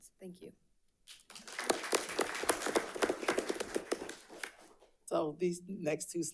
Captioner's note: audience applauding